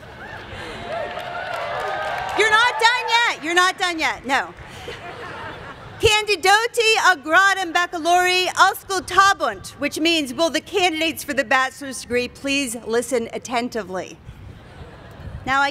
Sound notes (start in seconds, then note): 0.8 applause; 6.1 speaking latin